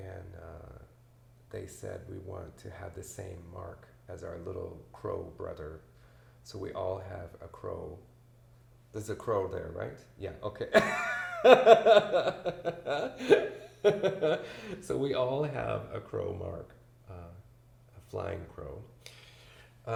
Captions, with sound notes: And they said we wanted to have the same mark as our little Crow brother. So we all have a crow ... There's a crow there right? Yeah, okay (laughs) so we all have a crow mark, a flying crow.